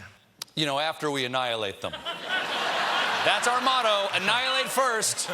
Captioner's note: laughter